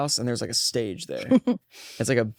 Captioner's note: laughs